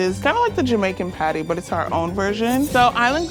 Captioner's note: knives snicking